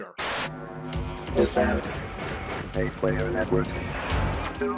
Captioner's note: robotic narrator